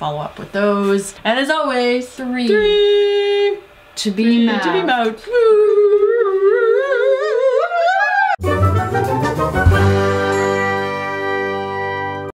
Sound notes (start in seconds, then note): 5.4 whoooo; 8.4 end music